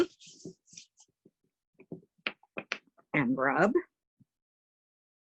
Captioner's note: hands rubbing